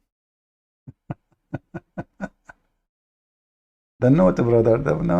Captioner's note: Ketawa